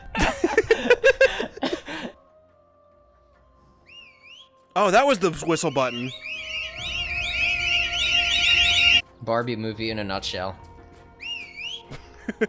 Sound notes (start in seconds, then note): 0.0 both Laughing; 3.8 whistle; 11.2 whistle